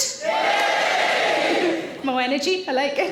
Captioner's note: audience Cheering